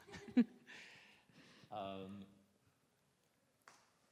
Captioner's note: crowd chuckles